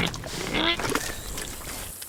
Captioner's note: grunt